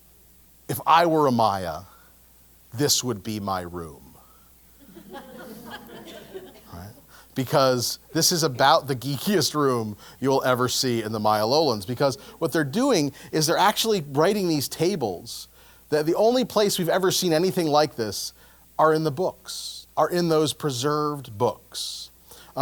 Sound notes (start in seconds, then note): 4.8 laugh; 9.1 laugh